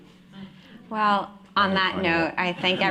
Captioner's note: laughter and applause